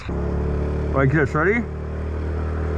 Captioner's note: motor revving